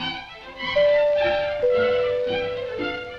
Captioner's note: doorbell